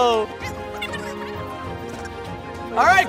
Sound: audio fast-forwarding; laughs

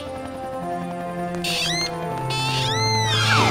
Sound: squeaking

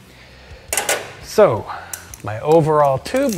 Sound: metal clinking

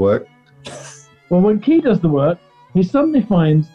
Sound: sniggering

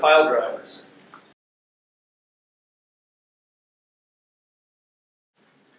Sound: silence

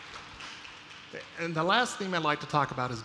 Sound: applause

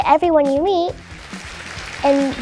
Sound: audience applauding

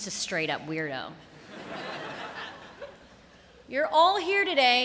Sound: laughter

